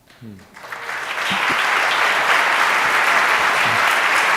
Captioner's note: audience applauds